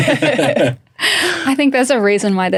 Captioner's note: all laughing